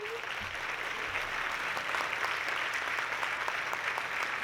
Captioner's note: audience clapping